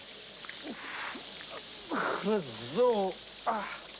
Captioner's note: exclaims